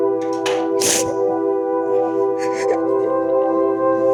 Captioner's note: sad music; both crying